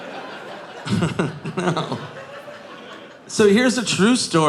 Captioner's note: chuckles